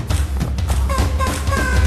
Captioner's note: vocalizing